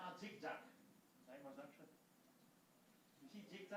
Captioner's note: non-english speech